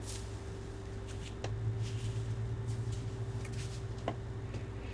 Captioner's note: wig rustling